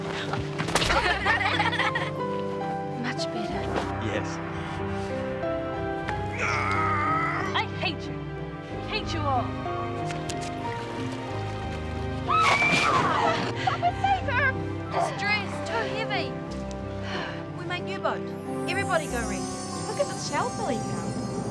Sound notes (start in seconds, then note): 0.8 laughter; 6.1 yelling; 11.8 shriek